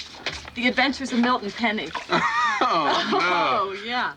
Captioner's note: laughs